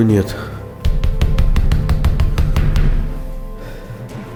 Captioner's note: knocking on the door